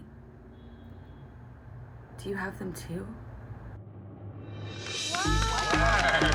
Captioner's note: cheers and applause